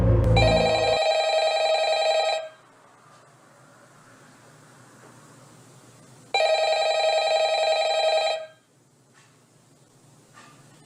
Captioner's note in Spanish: suena el teléfono